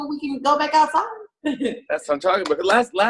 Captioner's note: chuckles